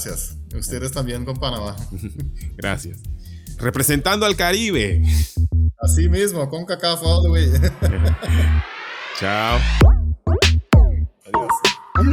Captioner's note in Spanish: risas